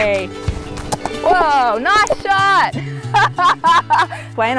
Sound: laughs

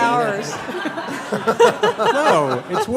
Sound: laughter

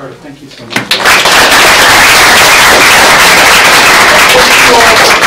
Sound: applause

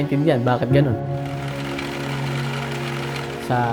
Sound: fan motor whirring

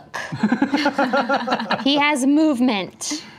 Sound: laughing

